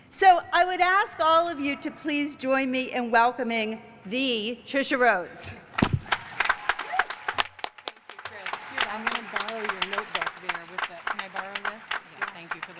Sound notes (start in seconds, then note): 6.0 cheers and applause